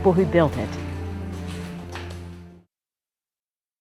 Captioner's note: ominous music fades; footsteps